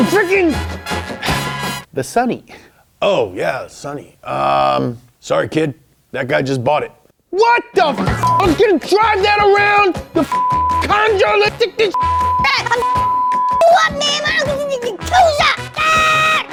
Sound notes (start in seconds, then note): 11.8 beeps